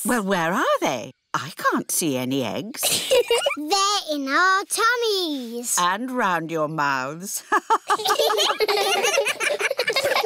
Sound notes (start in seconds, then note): 2.8 giggles; 7.4 all laughing; 7.4 laughs